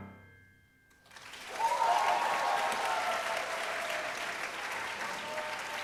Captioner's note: cheering and applause